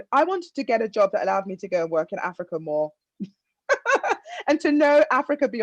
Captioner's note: laughs